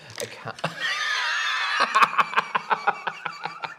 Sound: laughter

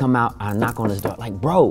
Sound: knuckles knocking

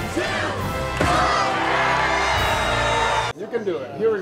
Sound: crowd cheering

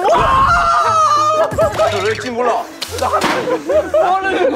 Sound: everyone burst out laughing

